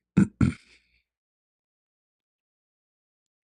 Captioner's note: membersihkan tekak dan batuk